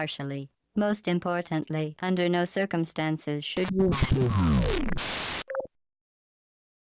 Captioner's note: bzzzpt